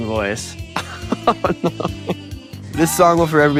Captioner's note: laughs